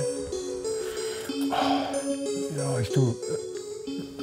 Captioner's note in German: seufzt